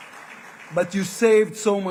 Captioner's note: applause